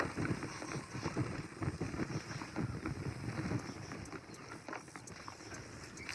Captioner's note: sounds of Crickets